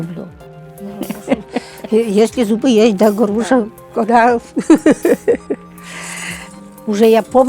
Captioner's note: laughs